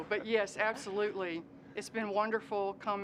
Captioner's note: laughter